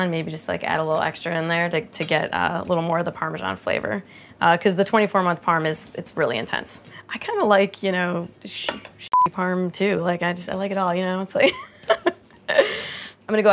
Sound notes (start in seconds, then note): 9.1 beeps; 12.8 laughs